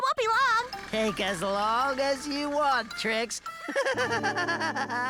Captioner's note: laughing